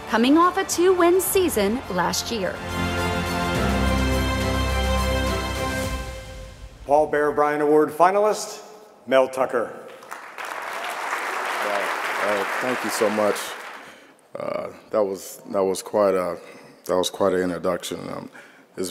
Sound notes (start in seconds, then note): 3.6 bright upbeat music; 9.8 audience clapping